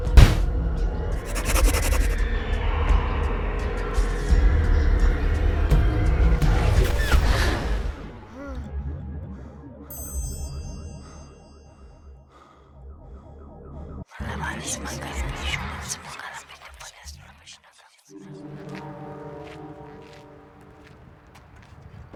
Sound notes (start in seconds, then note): 0.0 gunfire pops; 6.3 man pants; 6.3 unsettling music; 14.6 eerie whispering; 18.1 unsettling music